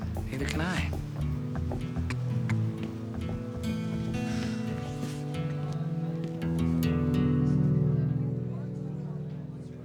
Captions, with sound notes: Neither can I. (sighs)